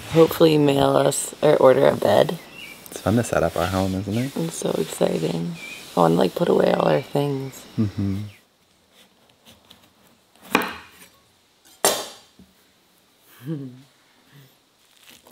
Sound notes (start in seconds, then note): 10.4 knife slicing; 13.4 chuckles; 14.8 spoon scraping